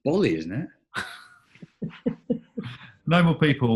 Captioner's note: chuckling